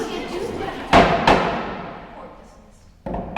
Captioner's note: bangs gavel